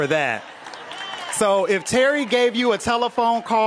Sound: applause

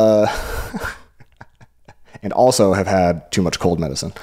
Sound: laughs

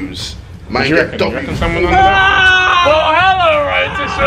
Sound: screaming

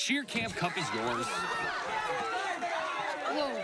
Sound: cheering

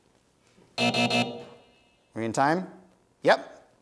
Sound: buzz

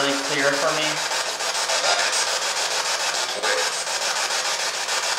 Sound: static

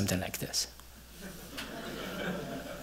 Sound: laughter

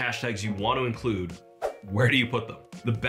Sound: screen whooshing

